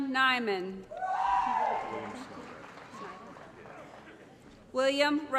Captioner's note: applause & Cheering